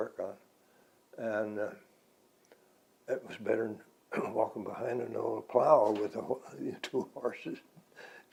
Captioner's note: laughs